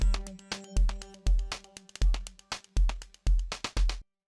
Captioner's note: applause